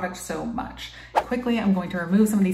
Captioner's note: air whooshing